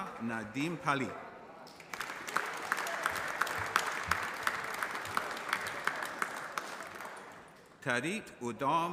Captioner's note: applause